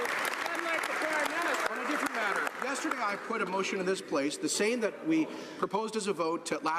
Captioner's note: some Applause